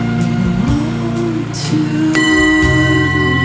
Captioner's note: clang continues